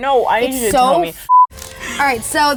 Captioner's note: beep